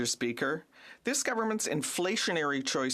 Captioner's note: speaking French